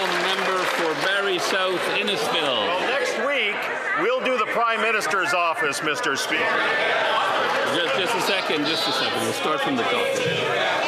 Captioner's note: some Applause